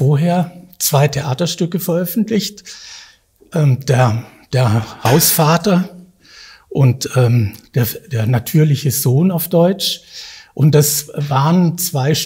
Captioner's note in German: auf Deutsch